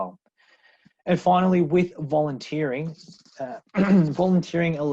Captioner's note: clears throat